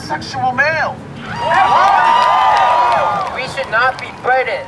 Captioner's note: cheers and applause